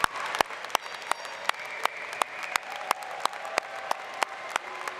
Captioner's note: applause